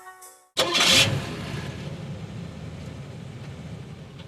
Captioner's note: car engine starting